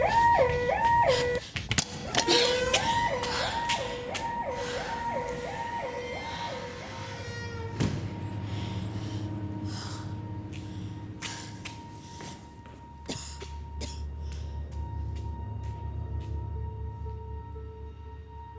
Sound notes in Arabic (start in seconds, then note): 1.1 جين يلهث